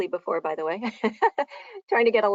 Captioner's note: chuckling